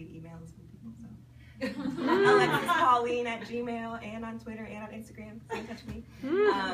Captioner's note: people laugh